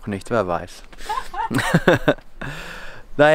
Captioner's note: laughter